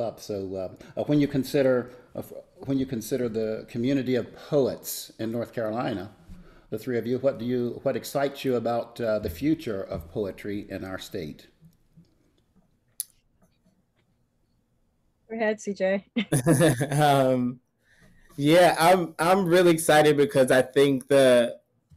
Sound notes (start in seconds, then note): 16.2 all giggle